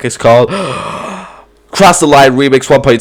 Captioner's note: inhale